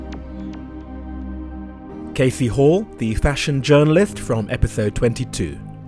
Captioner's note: voiceover